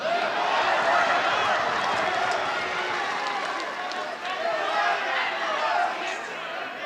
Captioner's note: heckling